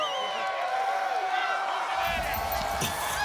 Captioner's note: crowd cheering